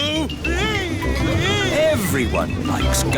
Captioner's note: screaming